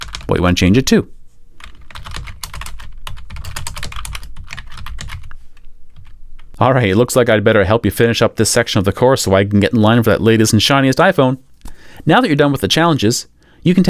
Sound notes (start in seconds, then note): 1.6 typing